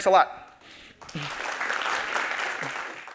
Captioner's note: applause